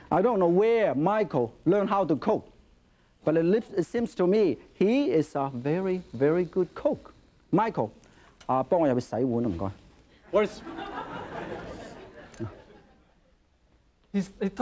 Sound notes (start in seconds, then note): 7.8 speaking foreign language; 10.3 audience laughing